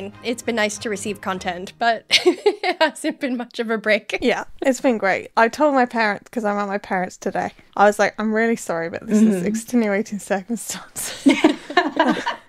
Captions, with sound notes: It's been nice to receive content. But... (laughing) It hasn't been much of a break. - Yeah, it's been great. I told my parents because I'm at my parents today. I was like, I'm really sorry, but this is extenuating circumstances. (laughing)